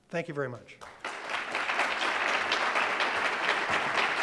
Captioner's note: audience claps